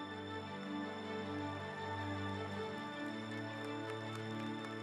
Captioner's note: audience applauds